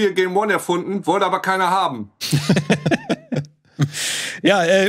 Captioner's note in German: Lachen